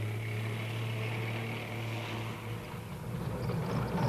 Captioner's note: tanks rumbling